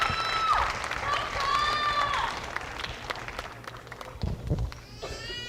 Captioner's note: applause